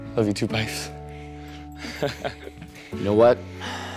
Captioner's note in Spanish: James se ríe